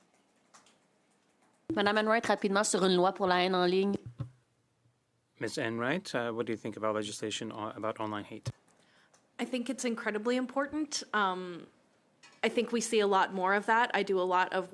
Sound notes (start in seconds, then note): 6.5 speaking French